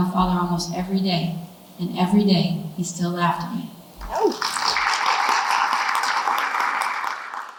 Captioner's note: clapping